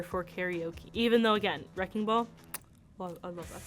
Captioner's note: kiss smacking